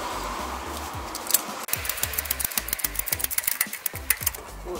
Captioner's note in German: Energisches Klackern